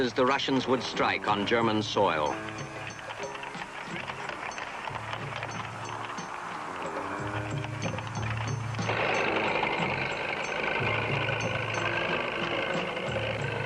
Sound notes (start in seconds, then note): 9.1 vehicles rumbling